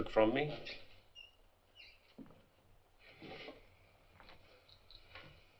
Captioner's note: silence